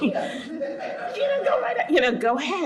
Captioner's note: audience laughs